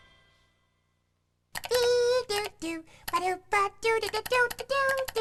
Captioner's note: humming theme song